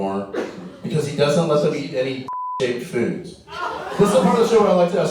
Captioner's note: beep